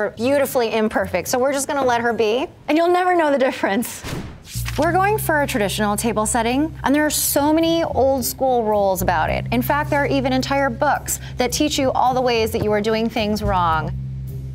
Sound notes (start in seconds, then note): 4.0 air whooshing; 4.4 page flapping